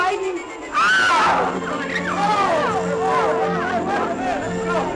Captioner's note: all yelling